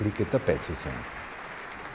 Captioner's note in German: klatschen